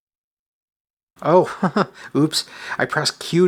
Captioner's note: chuckles